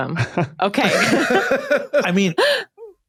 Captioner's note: laugh